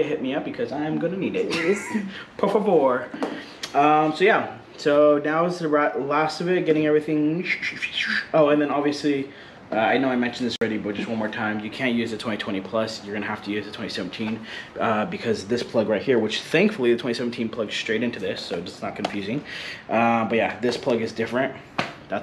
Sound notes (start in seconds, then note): 2.5 speaks foreign language